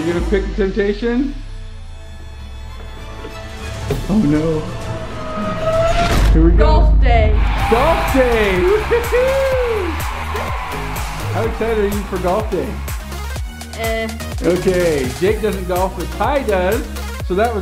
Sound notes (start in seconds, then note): 7.3 crowd cheering